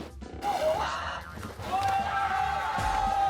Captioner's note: plop